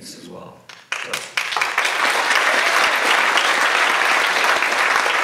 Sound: audience applauds

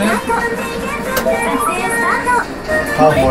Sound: click

